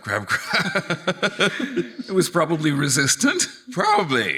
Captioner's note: laughing